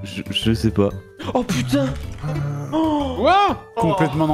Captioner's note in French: bruits de clavier